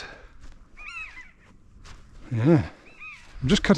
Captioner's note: buzzards make their crying call